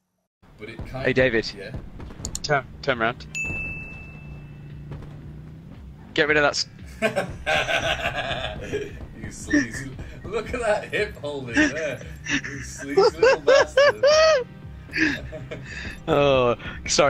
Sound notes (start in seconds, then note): 6.9 dirty laugh; 14.0 laughs like a mischievous child